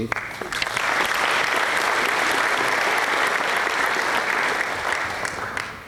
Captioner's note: applause